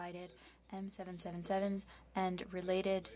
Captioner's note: speaking French